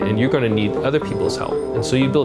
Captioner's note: bell dinging